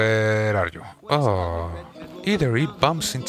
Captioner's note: groan